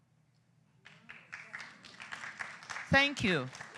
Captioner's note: applause